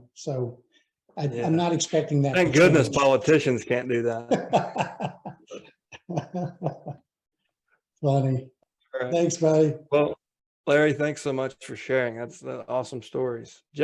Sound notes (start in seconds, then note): 5.9 laughs